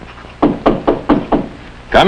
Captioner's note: knocking